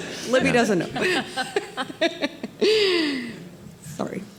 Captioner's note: group laughing